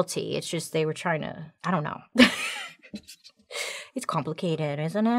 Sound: laughs

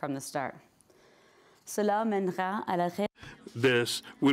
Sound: speaking in French

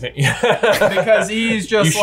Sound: laughs

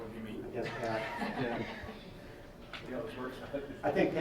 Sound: laughing

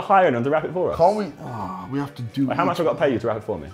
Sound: groans

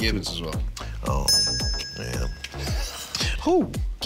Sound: dinging; laughing

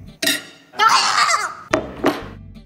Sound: gags

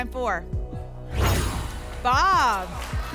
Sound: whoosh

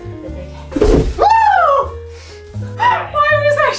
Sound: tree thudding

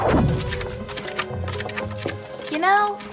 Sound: scratching sounds

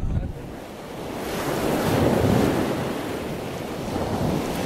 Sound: water whooshing

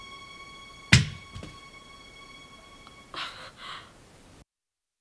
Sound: toothbrush clatters

